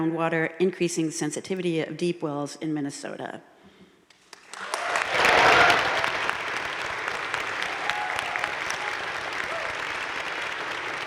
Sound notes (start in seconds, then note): 4.4 crowd cheering and applauding